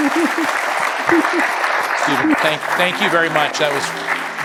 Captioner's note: applause